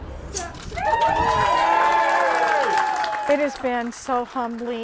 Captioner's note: cheers and applause